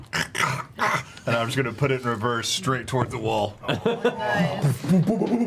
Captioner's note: choking sounds